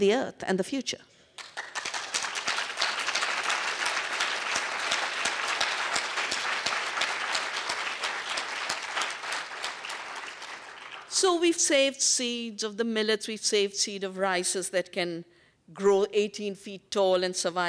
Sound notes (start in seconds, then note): 6.3 applause